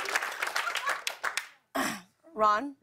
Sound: laughter, cheers, applause; clears throat

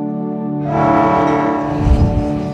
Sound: train horn blowing; fireball forming

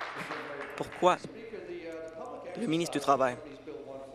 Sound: applause

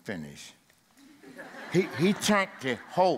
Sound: audience laughs

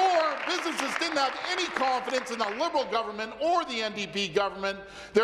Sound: applause

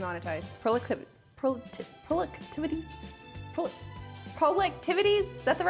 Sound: stammering

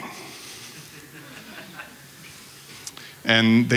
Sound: laughter

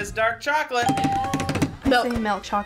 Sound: bell rings

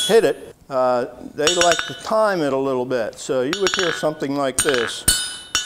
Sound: metal clinking

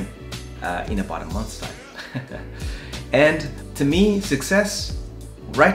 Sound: laughs

